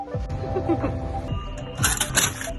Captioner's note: giggling